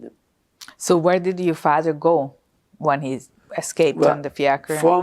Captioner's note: non-english